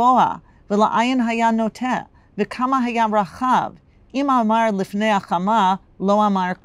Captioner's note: Hebrew